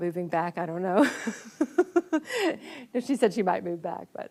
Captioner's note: laughs